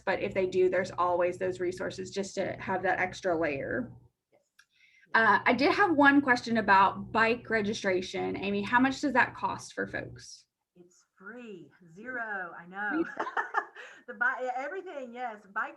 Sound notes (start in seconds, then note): 12.9 laughing